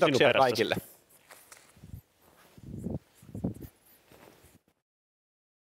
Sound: footsteps

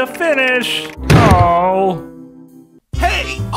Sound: Sound effect of Bubba's VA getting a concussion

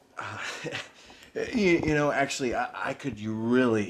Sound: laughs

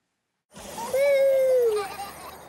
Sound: children cheering; Tobee laughs

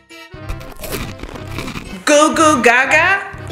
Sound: candy crunching

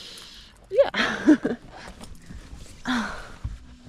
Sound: laughs

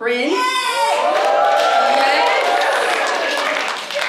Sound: audience cheers

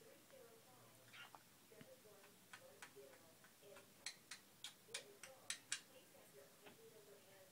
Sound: kissing noises

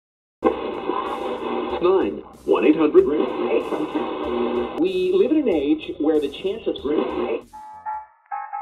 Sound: analog radio tuner scanning stations; big band swing

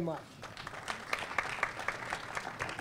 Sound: applause

